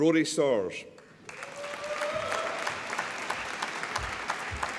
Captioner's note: applause